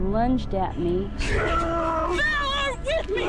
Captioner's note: groaning